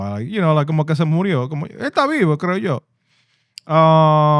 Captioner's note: speaking In Foreign Language